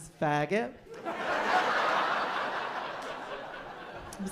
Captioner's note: laughter